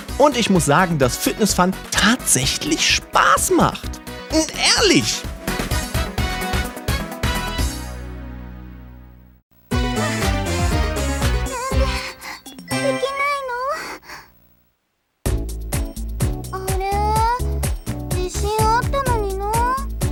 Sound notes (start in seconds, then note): 9.7 Riho being out of breath